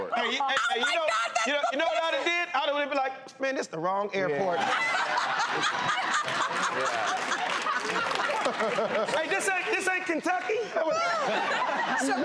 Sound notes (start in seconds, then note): 4.4 everyone laughing and cheering; 10.8 everyone laughing